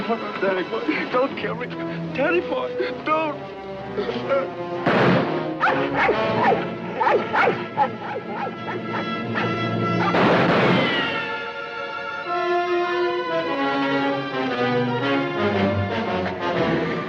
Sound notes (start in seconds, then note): 4.3 Joe groaning; 4.8 gunshot blasting; 5.6 dramatic music; 6.9 dog barking; 10.0 gunshots blasting; 12.3 dramatic music